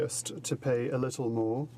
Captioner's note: speaking French